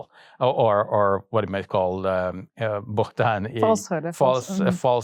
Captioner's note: speaks in Arabic